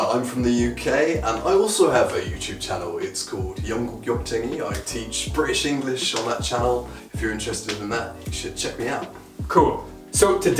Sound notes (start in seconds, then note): 3.2 speaking in foreign language